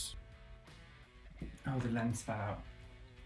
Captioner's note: thuds